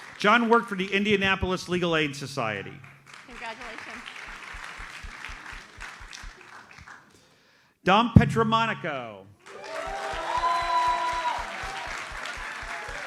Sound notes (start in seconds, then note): 2.8 audience applauds; 9.4 audience cheers and applauds